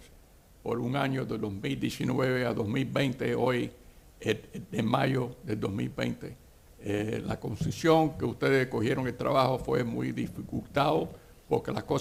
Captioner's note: speaking spanish